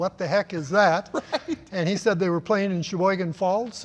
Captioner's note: laugh